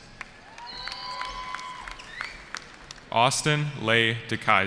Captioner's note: cheering